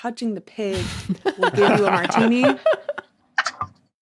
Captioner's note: others laughing